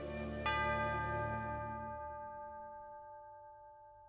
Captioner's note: bell rings